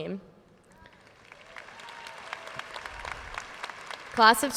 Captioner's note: audience sheers and applauds